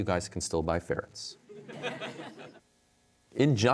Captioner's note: audience laughter